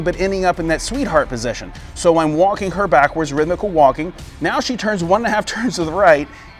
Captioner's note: rhythmical walking